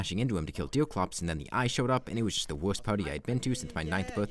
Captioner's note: muffled shouting of happiness